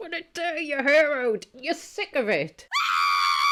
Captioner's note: screams